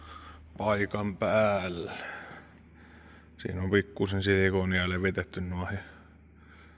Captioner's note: sigh